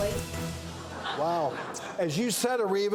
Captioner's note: audience laughter